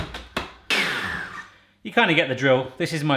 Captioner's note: whirr